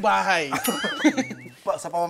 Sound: laughter

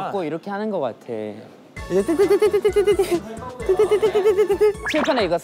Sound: beep beep

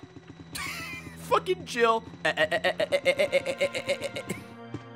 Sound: laughs

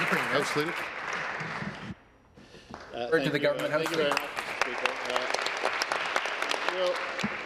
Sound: applause

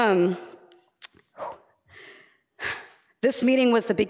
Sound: sighing

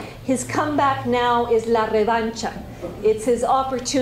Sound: spanish

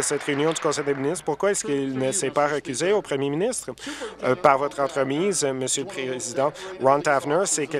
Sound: applause

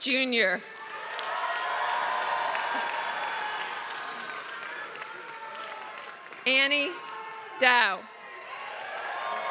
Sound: applause

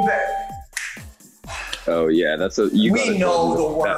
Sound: ding; sighs

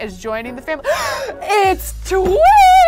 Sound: gasps

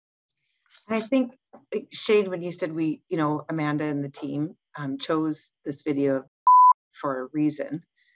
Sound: beep

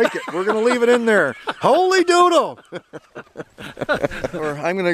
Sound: chuckles

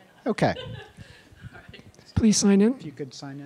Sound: laughs

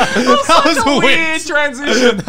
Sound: laughing

